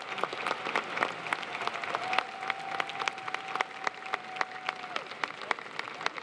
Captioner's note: applause